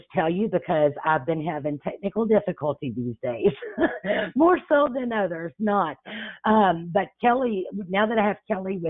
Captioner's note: chuckles